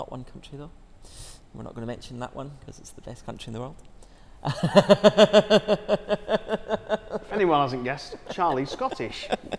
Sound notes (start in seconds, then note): 4.4 laughing